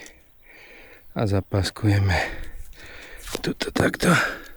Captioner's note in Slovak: vzdychanie